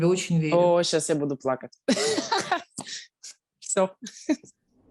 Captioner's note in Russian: смеется и плачет